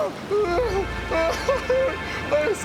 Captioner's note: sob